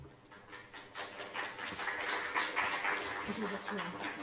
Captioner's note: applause